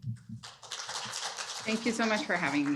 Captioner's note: applause